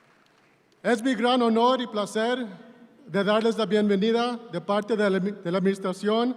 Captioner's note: speaking in Spanish